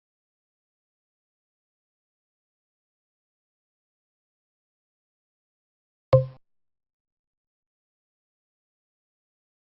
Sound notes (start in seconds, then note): 6.1 logo clicking